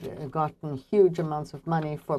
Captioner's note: speaking French